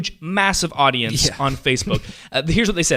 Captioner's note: laughs